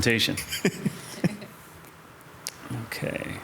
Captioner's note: council members chuckle